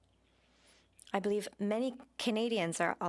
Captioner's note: speaking French